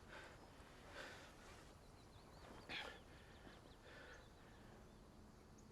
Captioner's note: Ben gasping; birds chirping